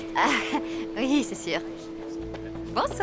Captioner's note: laughing